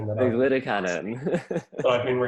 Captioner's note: laughs